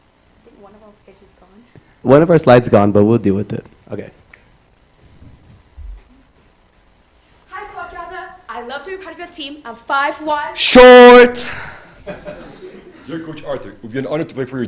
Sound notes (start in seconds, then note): 11.9 laughs